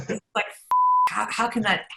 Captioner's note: laughs; beep